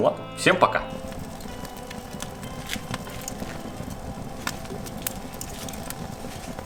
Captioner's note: sound of burning fire